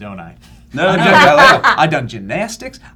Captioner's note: laughter